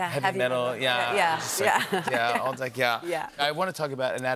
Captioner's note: laughter